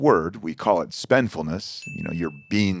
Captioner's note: bell dings